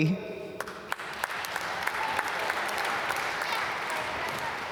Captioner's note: applause